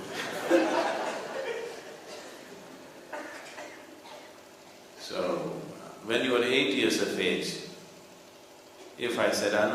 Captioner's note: laughter